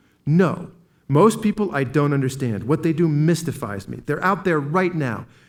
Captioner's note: none